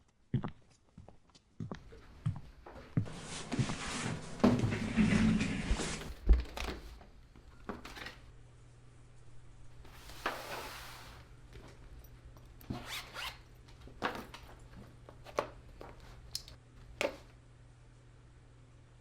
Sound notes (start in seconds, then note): 0.4 footsteps patter; 4.3 chair rattles; 12.7 zipper buzzes